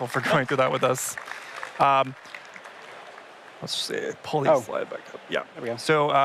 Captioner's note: applause